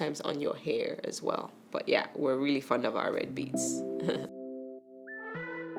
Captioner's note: chuckles; gentle upbeat music